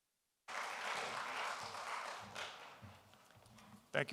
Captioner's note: applause